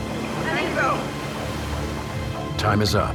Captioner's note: man speaking in foreign language; woman speaking in foreign language